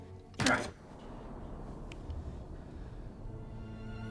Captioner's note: blow thuds